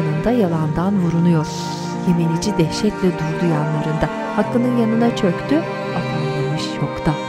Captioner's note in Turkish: Ağlama sesleri